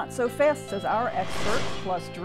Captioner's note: whooshing